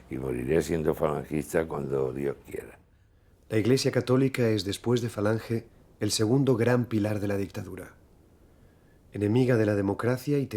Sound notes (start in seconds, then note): none